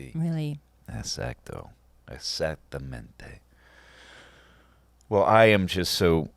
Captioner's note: speaking in foreign language